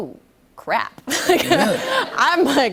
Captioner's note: laughter